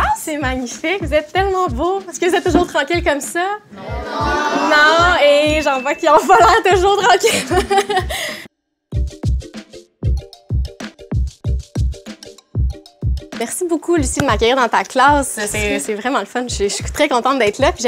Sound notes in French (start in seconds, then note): 7.0 rires